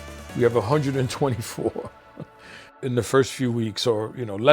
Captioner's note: laughs